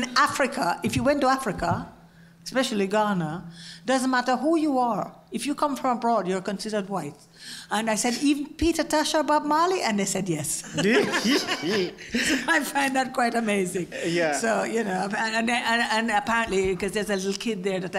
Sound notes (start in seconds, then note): 10.7 laugh